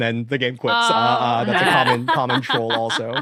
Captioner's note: laughs